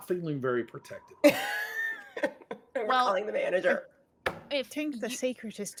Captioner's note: laughing